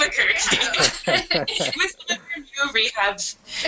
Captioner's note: laughter